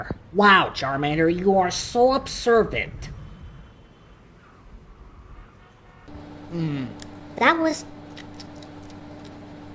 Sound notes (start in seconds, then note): 6.3 munching